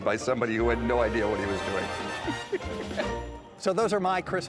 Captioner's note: laughs